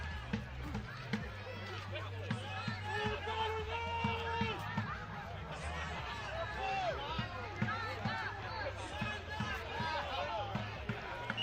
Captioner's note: chanting